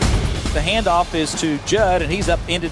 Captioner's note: voiceover